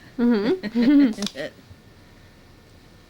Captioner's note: both laughing